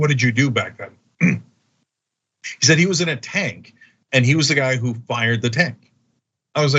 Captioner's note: cough